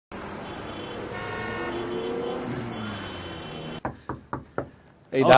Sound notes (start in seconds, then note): 0.1 traffic noises; 3.8 Knocking